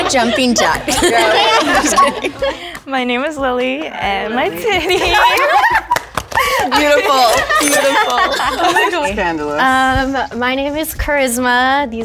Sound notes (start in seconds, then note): 5.1 all giggling